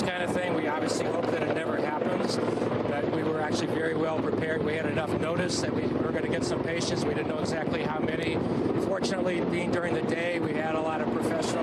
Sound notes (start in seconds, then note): 3.9 helicopter